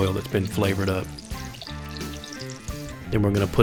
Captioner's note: sizzling